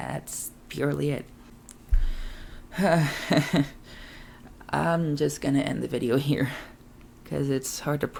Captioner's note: laughs in amazement